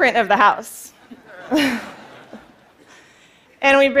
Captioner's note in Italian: Risate